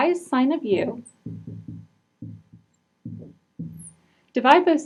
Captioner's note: marker knocking